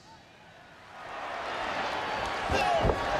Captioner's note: audience cheering